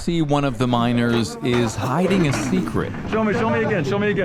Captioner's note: cart rattling